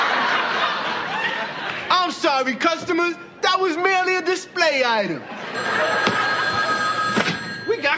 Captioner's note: Telefone toca